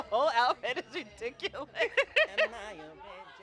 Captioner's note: laughs